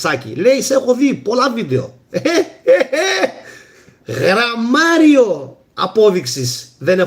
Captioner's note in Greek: γέλια